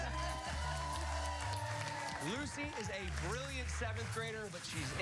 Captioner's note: cheers and applause